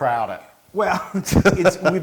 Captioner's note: laugh